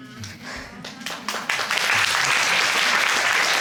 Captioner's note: audience applauding